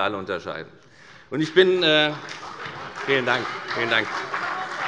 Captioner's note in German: Beifall bei der FDP sowie bei Abgeordneten der CDU und der SPD